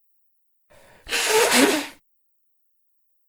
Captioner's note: blows nose